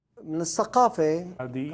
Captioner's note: speaking Arabic